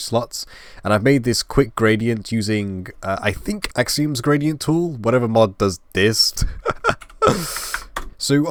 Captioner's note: laugh